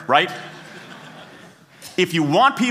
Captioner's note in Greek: Γέλια